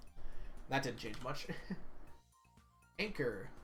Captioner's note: chuckles